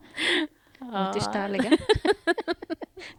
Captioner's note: aww, laughter